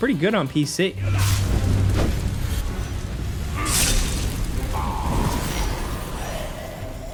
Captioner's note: dramatic music; soldiers groaning